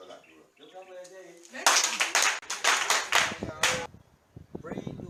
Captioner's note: applause